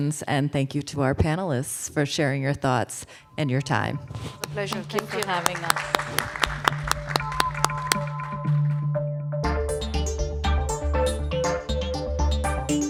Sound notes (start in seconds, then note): 6.1 attendees and panelists applauding; 7.3 upbeat pulsating music